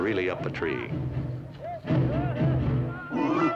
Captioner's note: men yelling; grunts